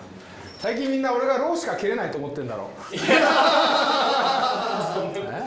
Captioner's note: laughs